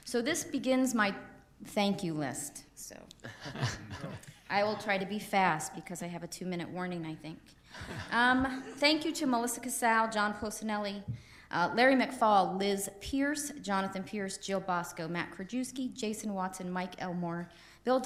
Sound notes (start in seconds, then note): 3.2 laughter